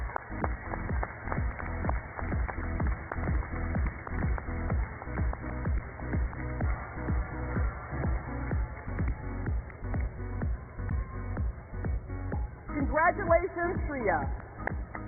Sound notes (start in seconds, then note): 4.1 cheers and applause